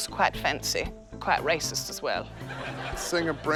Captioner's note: laughter